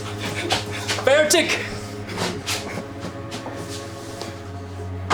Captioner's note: soldier speaking German